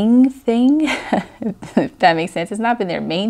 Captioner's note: laughs